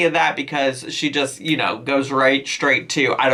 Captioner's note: snaps